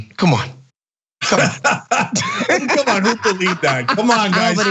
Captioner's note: laugh